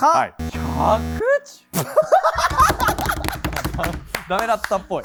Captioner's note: laughs